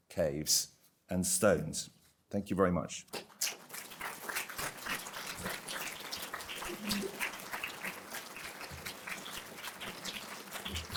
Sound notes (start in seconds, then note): 3.2 applause